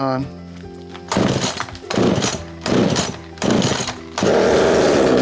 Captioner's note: engine revving